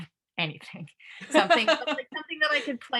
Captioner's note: laughs